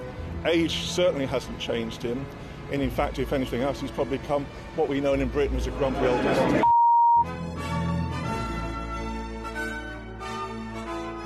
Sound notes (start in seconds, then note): 6.6 beep; 7.2 regal instrumental music